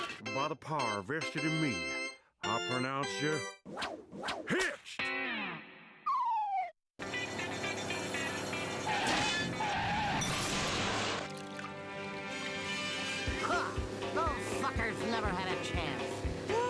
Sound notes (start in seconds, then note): 3.3 whooshing